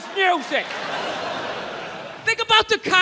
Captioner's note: crowd laughs